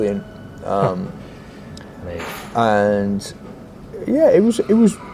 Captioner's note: chuckles